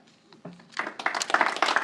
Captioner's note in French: Applaudissements